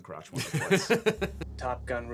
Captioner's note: chuckling